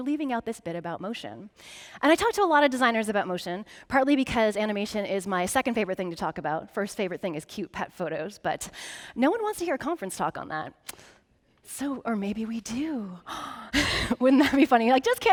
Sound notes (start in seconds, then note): 13.3 gasps